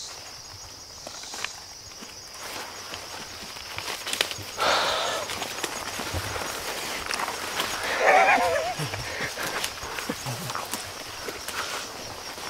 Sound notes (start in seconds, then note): 7.6 laughing